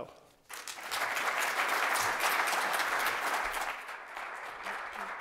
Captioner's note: applause